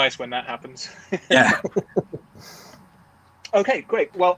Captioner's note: both giggling